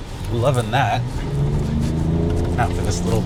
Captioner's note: engine whirring